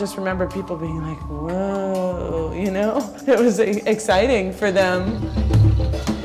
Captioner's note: laughs